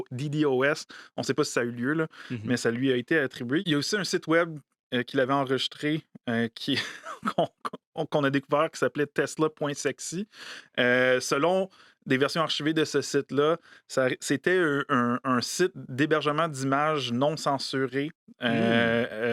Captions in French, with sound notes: On sait pas si ça a eu lieu, là, mais ça lui a été attribué. Il y a aussi un site Web qu'il avait enregistré qui... (rire) ... qu'on a découvert qui s'appelait Tesla.Sexy. Selon des versions archivées de ce site-là, c'était un site d'hébergement d'images non censurées, supposément